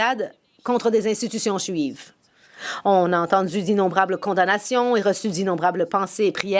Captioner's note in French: voix de l'interprète